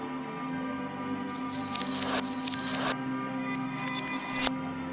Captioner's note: tense music; images zapping